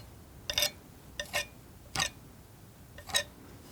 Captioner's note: tapping